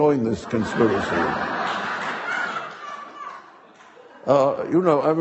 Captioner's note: audience laughing